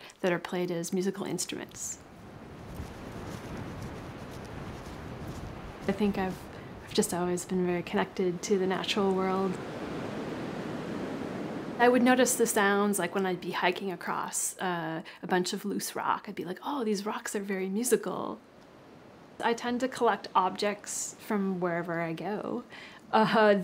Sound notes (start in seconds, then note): 3.1 wind blowing